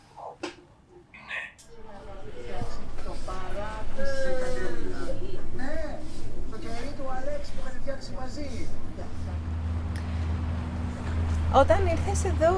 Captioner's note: voices from the outside